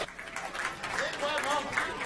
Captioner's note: applause